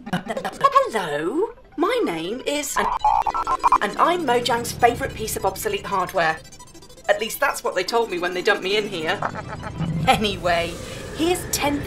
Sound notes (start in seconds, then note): 2.7 old modem sound